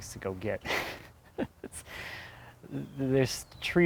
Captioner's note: laughing